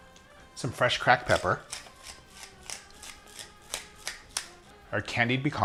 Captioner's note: pepper grating